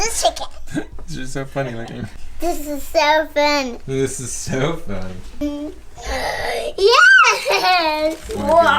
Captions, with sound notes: They're just so funny looking... "This is soooo fun." *gasp* "Yeaaaaaassss!"